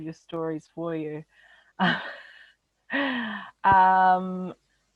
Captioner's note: chuckles softly